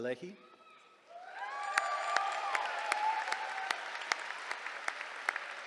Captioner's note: cheering